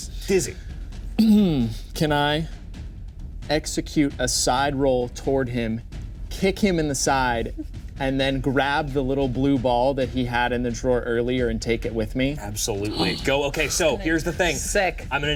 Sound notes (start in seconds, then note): 12.8 gasps